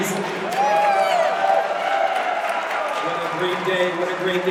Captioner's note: audience cheers and applauds